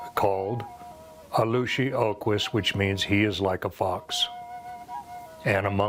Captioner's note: speaks osage